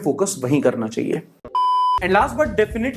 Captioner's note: beep